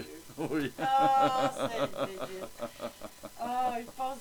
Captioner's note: laughter of happiness